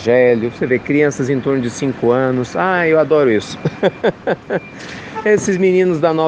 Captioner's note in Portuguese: risos